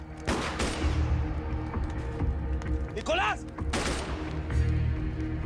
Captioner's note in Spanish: Disparos; Disparos